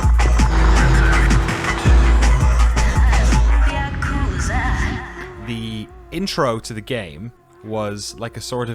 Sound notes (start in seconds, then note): 0.0 car engine roaring